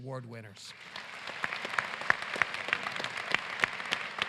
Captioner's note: applause